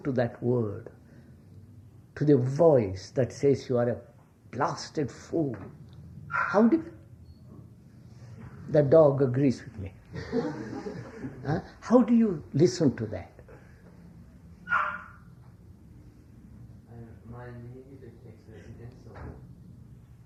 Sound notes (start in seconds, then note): 6.3 dog barks; 10.1 laughter